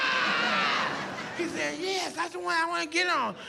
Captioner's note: screams